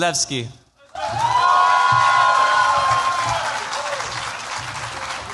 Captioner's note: cheers, applause